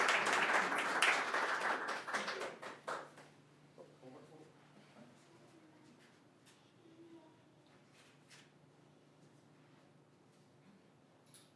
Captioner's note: applause